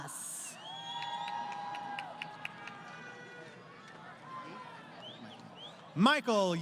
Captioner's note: crowd Cheering